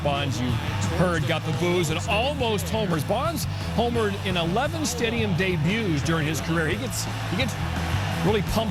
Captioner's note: crowd booing